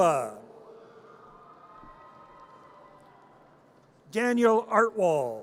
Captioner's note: audience cheers